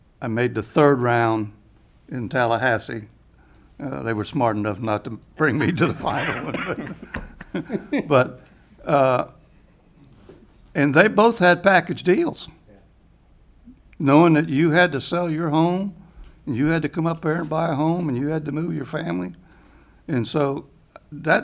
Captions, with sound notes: And I made the third round in Tallahassee, they were smart enough not to bring me to the final. (laughs loudly) And they both had packaged deals, knowing that you had to sell your home and you had to come up here and buy a home and you had to move your family.